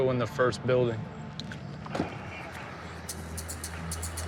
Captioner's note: car door opens